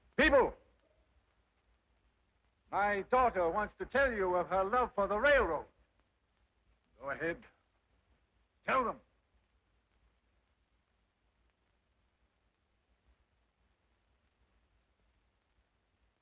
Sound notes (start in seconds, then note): none